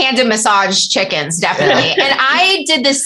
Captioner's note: laughter